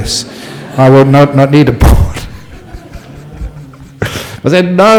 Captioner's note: laughter from the audience